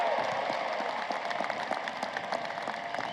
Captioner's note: applause